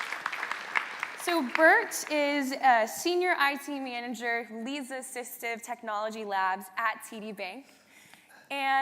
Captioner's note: applause